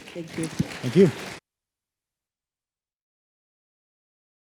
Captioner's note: audience applauding